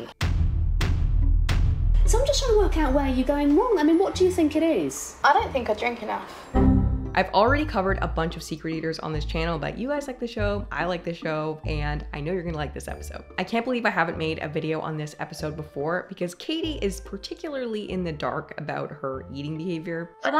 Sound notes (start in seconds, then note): 0.2 explosions booming; 6.5 alarm dinging